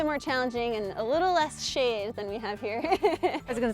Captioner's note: laughing